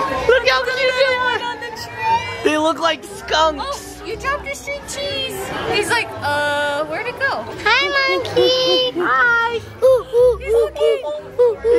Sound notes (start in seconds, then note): 9.7 imitating a monkey